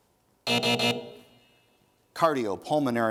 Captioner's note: buzzing